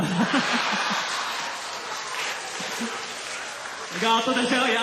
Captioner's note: laughter, applause